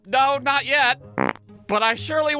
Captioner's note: prrrt!